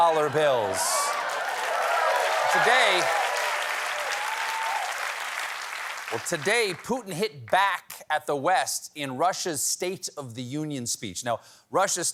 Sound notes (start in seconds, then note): 3.9 cheers and applause